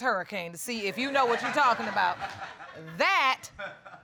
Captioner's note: audience laughs